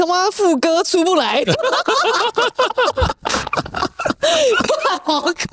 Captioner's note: laughing